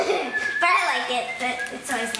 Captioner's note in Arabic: يضحك; صفير